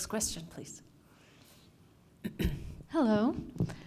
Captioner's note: cough